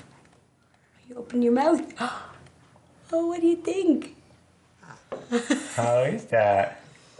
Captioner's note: laughs